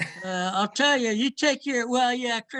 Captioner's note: laughs